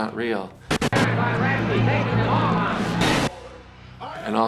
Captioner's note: static crackling; people shouting faintly